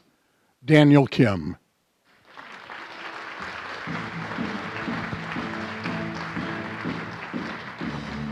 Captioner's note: applause